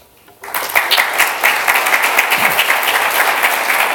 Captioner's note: applause